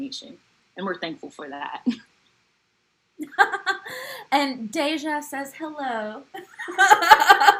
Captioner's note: laugh; laugh